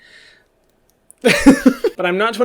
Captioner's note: laughs